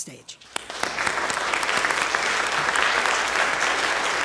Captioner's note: applause